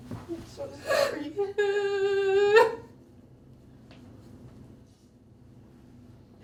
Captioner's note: sollozando